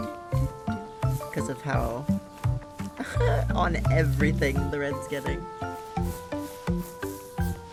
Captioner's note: giggles